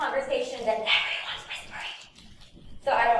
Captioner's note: whispers